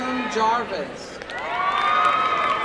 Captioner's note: cheering